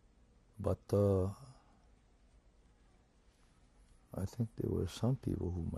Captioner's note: pauses for 3 seconds